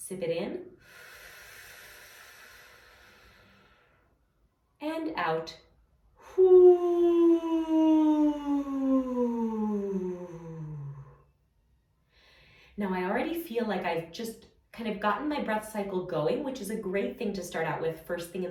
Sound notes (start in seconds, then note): 0.8 inhaling